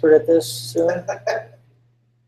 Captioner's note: laugh